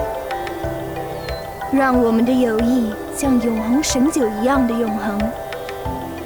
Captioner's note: in Mandarin